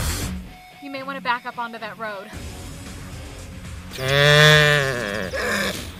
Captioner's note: music fades; sound of like angry animal